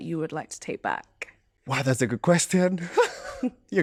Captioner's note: laughter